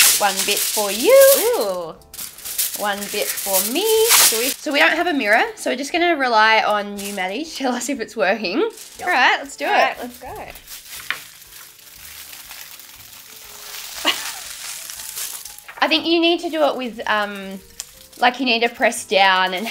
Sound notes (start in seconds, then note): 12.2 foil crinkles